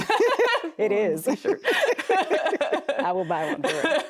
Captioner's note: both laughing